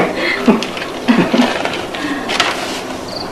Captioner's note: chuckles